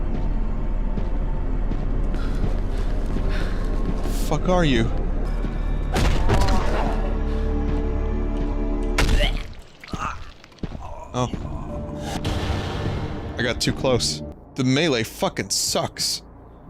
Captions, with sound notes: What the fuck are you? (Thudding) Oh. I got too close. The melee fuckin' sucks